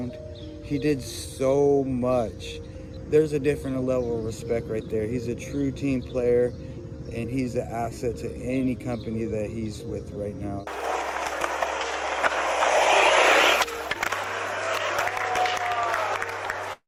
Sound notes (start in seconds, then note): 10.6 skateboard rolling; 13.5 audience applauding